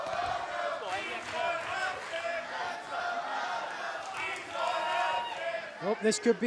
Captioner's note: fans chanting